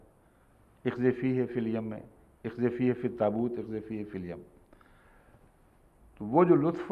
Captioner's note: Arabic